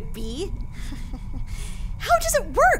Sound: awkward laughter

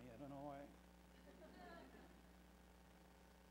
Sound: laughter

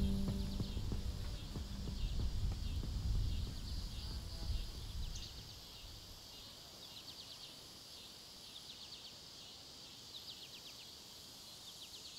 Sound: insects chirping, birds singing

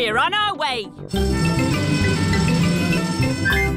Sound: siren wailing

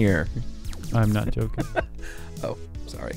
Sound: laughs

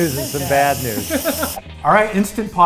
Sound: laughs

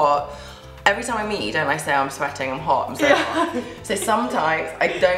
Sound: laughter

